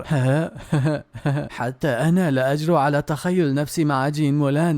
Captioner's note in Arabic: ضحك